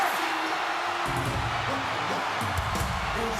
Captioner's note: crowd cheering